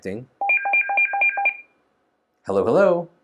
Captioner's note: phone ringing